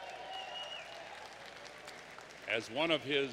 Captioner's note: applause